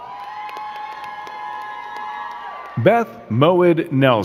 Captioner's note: crowd cheering and clapping